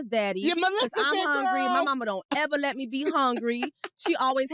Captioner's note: laughs